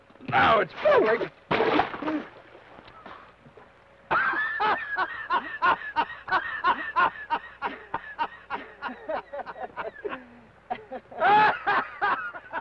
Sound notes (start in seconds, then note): 0.4 water splashes; 4.0 laughs